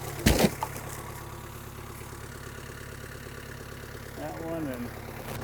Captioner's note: engine idling; slab thumping